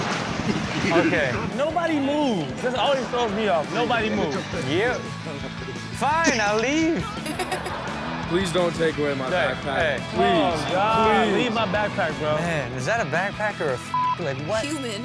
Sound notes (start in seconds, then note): 7.0 laughs